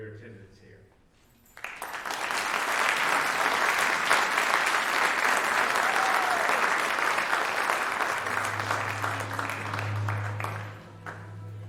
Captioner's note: applause